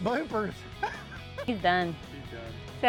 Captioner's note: laughing